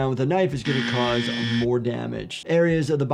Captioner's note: buzzer buzzes